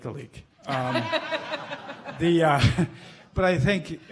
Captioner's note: laughing